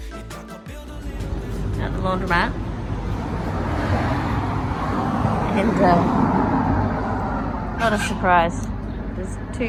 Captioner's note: heavy traffic noise